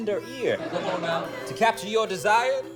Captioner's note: laughter